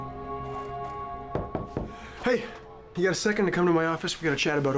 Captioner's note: knocking on door